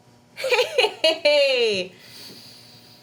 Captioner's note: laughing